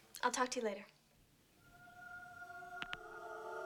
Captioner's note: line Clicks